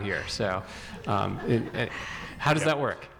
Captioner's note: audience laughing